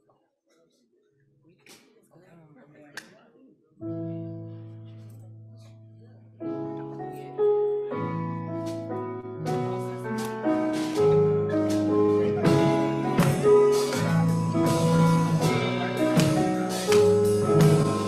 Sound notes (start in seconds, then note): 0.6 crowd continues murmuring indistinctly; 4.0 solemn gospel music; 14.0 solemn gospel music continues